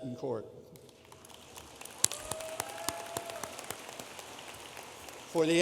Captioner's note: audience applauding